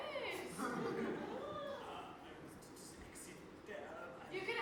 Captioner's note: stuttering